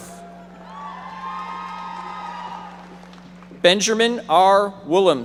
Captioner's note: audience members applauding